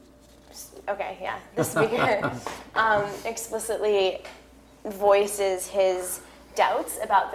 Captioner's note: laugh